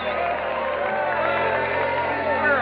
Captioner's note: crowd cheering